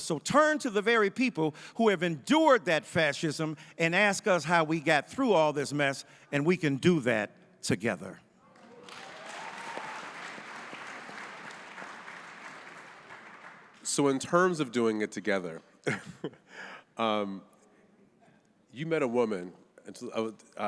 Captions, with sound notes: So turn to the very people who have endured that fascism and ask us how we got through all this mess and we can do that together. (audience applauding) - So in terms of doing it together, (chuckles) you met a woman